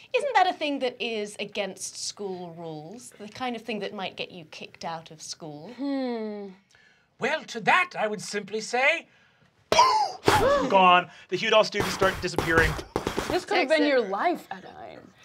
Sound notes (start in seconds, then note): 10.2 making explosion sounds